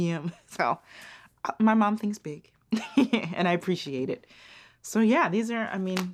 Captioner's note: laughs